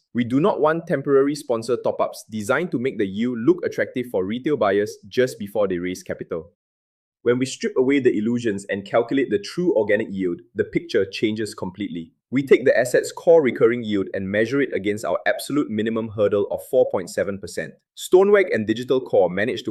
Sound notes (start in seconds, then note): 12.0 thoughtful